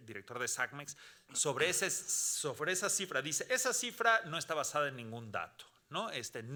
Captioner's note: speaking Spanish continues